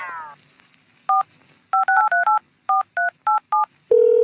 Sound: phone dials I-LOV-U-4-EVR; engaged phone tone

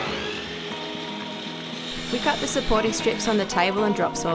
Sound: saw whirs

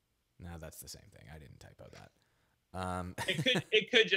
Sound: laughing

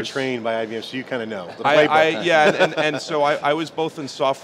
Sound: laughs

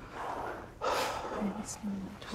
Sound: interviewee sighs

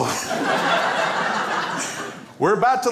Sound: crowd laughs

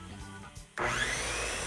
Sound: whirring

